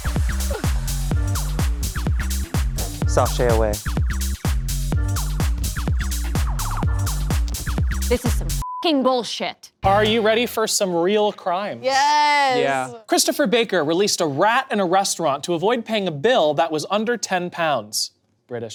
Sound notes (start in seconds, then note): 0.0 upbeat music; 8.6 beep